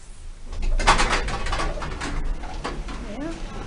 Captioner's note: doors clunk as they open